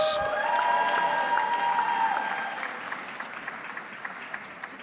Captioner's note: audience clapping